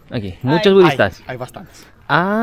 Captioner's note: Spanish